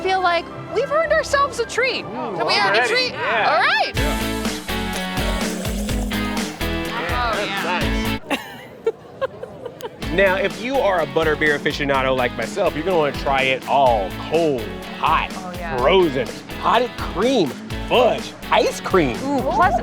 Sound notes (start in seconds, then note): 4.4 lively music; 8.2 giggles